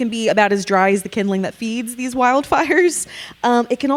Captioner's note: chuckling